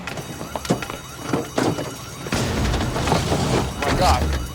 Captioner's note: alarm wailing